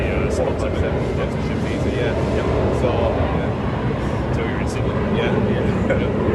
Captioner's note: plane flies overhead